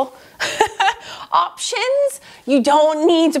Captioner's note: laughs